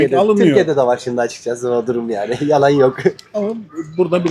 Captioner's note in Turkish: kahkaha